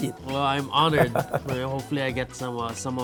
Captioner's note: laughing